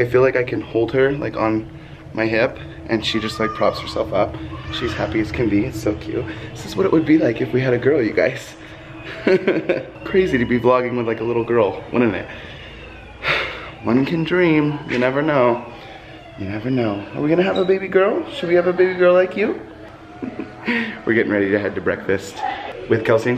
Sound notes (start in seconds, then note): 8.8 laugh; 13.2 sigh